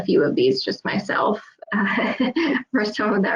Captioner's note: laughs